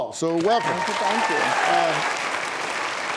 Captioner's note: audience applauding